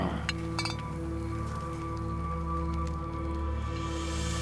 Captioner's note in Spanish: Choque de botellas